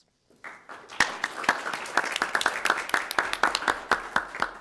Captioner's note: attendees applauding